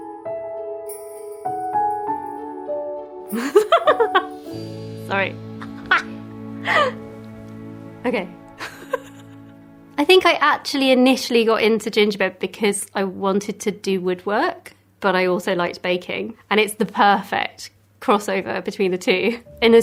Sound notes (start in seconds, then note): 0.0 soft piano Christmas jingle; 3.4 guffaws; 8.6 chuckles; 8.6 guffaws